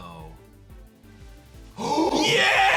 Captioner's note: gasps